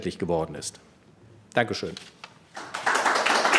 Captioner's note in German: Klatschen